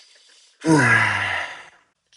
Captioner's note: sigh